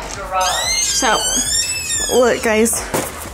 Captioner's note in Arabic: صرير الباب